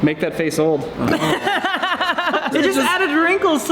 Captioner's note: laughter